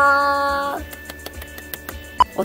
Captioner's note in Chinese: 拍手